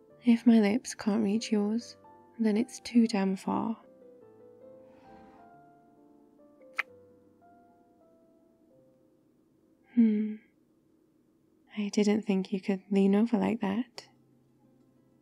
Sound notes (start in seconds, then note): 4.9 kiss